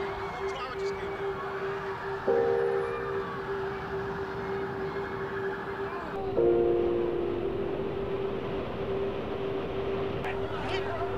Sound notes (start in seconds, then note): 4.5 sirens blaring; 4.5 somber music